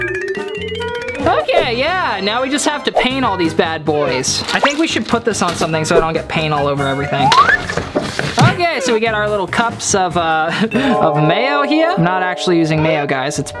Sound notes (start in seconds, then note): 0.0 upbeat piano music; 10.7 chuckles